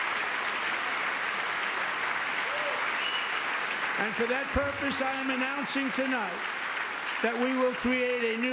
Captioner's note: applause